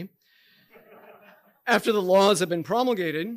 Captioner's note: audience chuckling